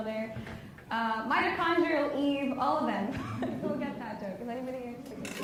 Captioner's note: laughs